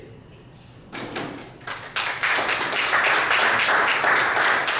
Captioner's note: audience applauds